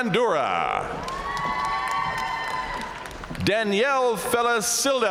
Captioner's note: audience cheering and applauding